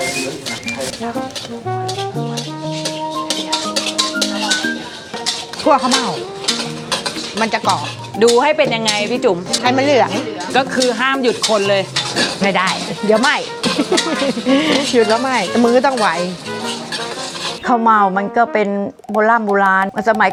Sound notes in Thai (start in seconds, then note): 13.5 เสียงหัวเราะ